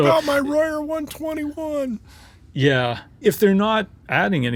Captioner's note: huffing sounds